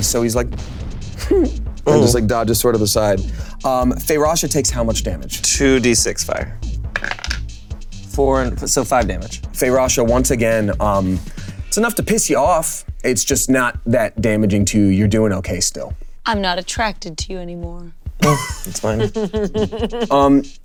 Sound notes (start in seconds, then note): 6.9 die rolling; 18.2 Delores chuckling